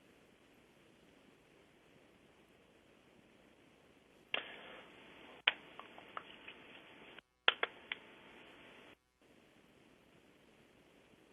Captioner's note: pause